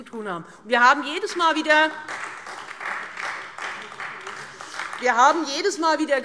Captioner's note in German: Beifall Freie Demokraten und AfD